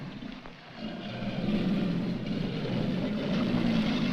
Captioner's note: growling Continues